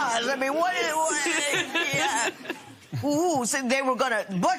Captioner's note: laughter